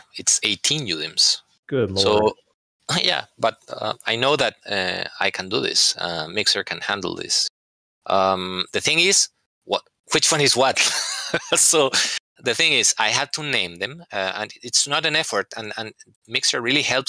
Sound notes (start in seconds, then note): 10.7 laughter